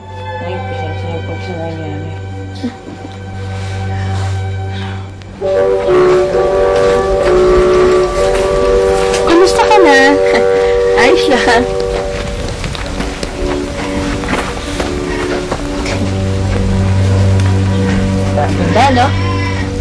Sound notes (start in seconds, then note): 2.5 scoffs; 10.3 giggles